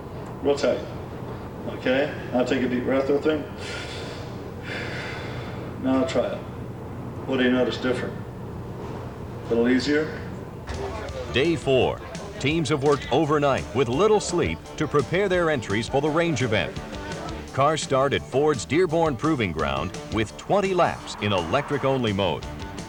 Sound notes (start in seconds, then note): 3.6 inhalation; 6.2 exhalation; 14.6 background talking